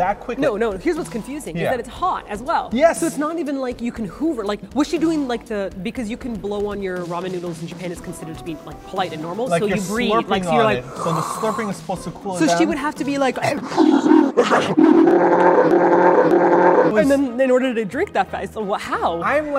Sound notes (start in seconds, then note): 10.8 slurping noises; 13.5 ZOOMS IN on dinosaury slurp noises; 13.5 monstrous slurping noises; 17.0 normal voice